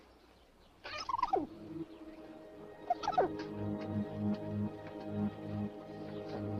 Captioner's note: squirrel chatters; suspenseful music